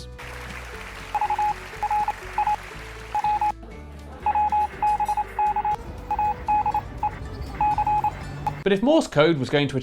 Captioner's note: morse code beeping